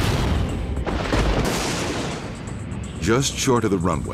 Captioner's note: lightning crashes